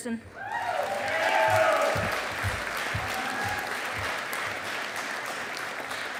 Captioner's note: audience applauding